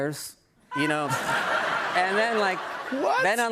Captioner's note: laughter